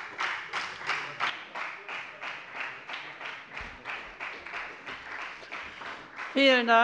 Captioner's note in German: Beifall bei der FDP und der SPD